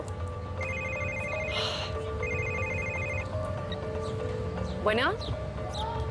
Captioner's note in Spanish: Suena un celular